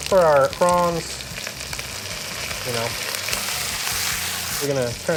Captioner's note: wok sizzles